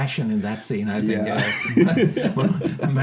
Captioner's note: laughing